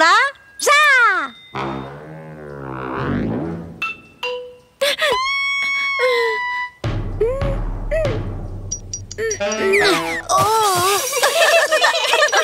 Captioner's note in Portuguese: Risos